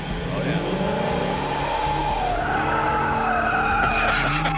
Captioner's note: tires squealing